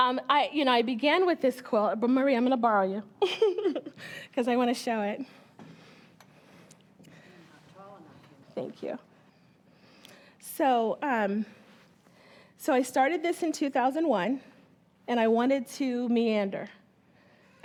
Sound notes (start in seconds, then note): 3.2 chuckles